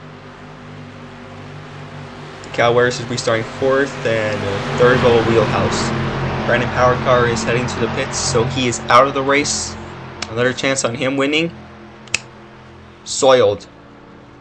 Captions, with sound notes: Cal Weathers is restarting fourth and third Bubba Wheelhouse. Brandon Powercar is heading to the pits so he is out of the race another chance on him winning... (SNAPS FINGERS) soiled.